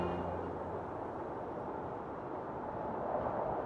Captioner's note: wind blowing